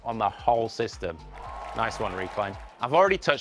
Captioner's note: audience cheering and clapping